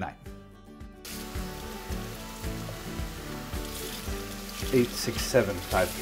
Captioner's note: water splashing